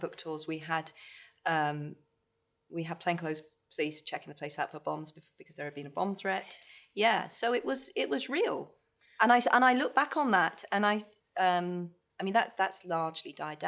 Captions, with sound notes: ...we had plainclothes police checking the place out for bombs. There had been a bomb threat. -[(WHISPERS] Really? -Yeah. So it was real. And I look back on that, and I, um-- I mean, that's largely died down.